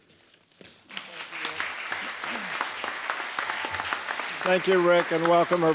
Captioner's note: applause